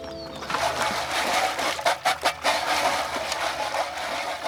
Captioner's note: container shaking